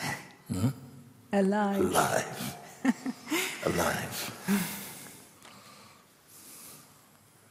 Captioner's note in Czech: smích